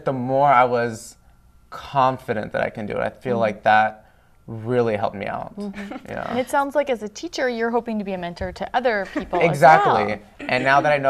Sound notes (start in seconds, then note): 9.1 laughter